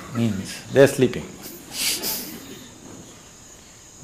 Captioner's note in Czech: Smích